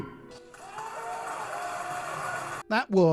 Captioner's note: clapping